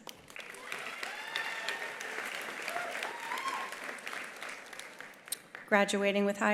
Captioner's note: attendees applauding; attendees cheering